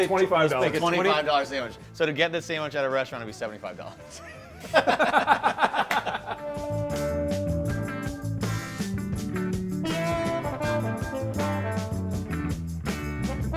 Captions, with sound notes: - Let's make it $25. - $25 sandwich. So to get this sandwich at a restaurant, it'd be $75. (all laugh) (upbeat music)